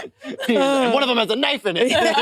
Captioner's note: participants laughing